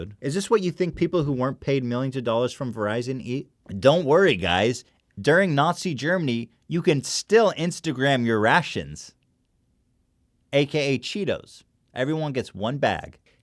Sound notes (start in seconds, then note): 9.4 long pause